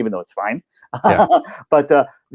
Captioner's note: laughing